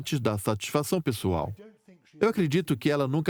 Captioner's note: voiceover